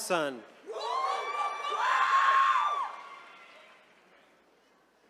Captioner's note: attendees cheering